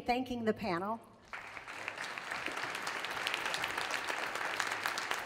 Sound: audience applauds

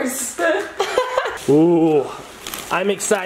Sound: laugh

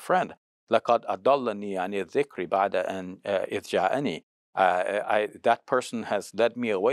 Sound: speaks Arabic

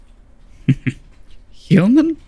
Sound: chuckle

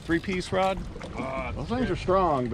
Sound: grumbling in background

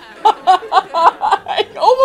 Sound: laughter; laughing

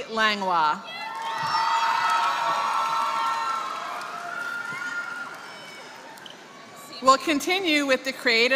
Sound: applause

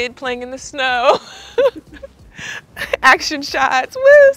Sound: laughs

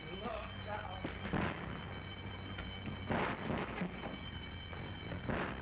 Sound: sirens

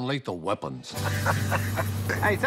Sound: laughs

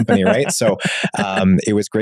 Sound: laughing warmly

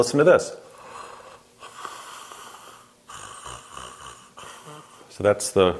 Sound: snoring

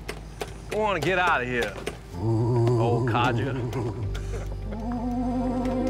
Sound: eerie voice

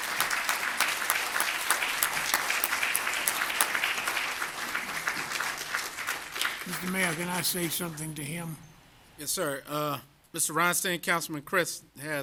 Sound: applause

